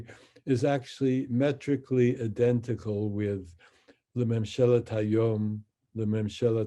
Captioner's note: speaks in Hebrew